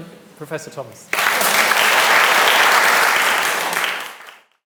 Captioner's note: attendees clapping